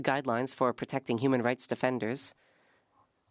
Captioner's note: speaking French